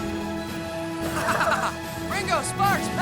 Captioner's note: Ozz laughing